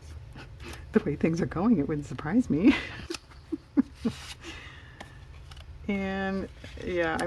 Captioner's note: laughs